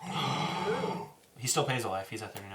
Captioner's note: gasps